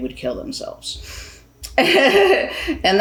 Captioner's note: laughs